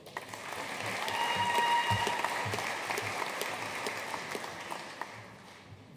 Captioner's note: audience cheering and applauding